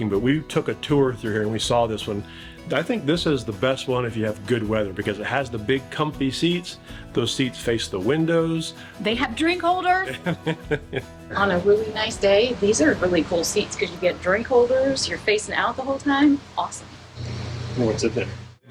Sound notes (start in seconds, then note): 10.0 laughing